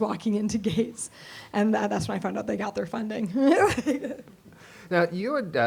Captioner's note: laughter